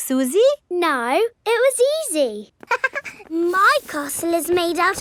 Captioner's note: chuckles